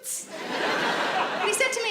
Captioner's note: laughing